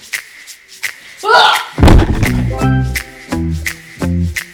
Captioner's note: shouts